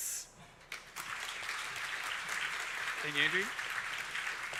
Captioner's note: audience applauding